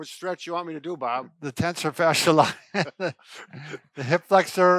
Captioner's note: laughs